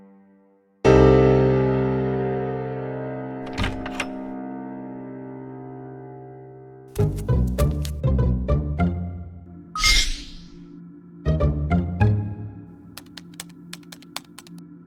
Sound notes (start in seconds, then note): 7.0 suspenseful music; 12.9 typing